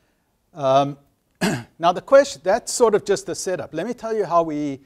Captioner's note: cough